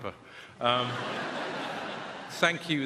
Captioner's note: audience laughing